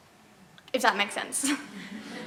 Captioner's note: laughter